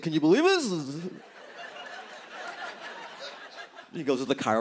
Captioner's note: laughter